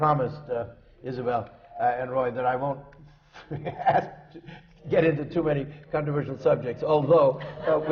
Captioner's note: laughs